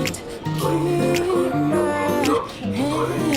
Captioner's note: automatic voice, announcement of bus stops